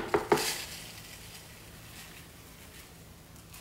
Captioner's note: pouring